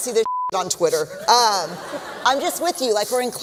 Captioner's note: laughter